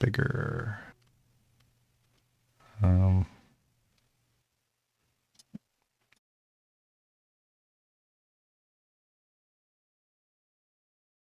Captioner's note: silence